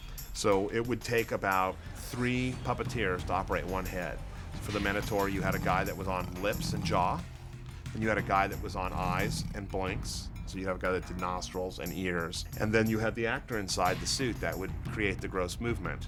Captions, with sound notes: So it would take about three puppeteers to operate one head. For the minotaur, you had a guy that was on lips and jaw, (GRUNTING) then you had a guy that was on eyes and blinks, so you have a guy that did nostrils and ears. Then you had the actor inside that would create the gross movement.